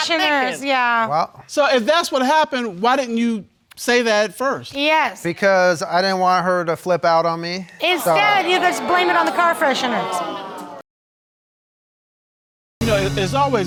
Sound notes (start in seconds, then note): 7.8 audience exclaims